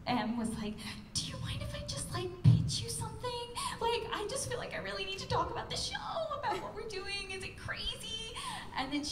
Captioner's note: imitating Emily